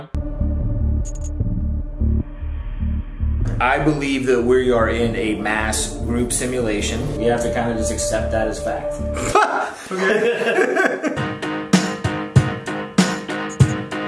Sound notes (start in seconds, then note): 0.1 ominous music; 9.1 Shane laughing; 10.6 upbeat music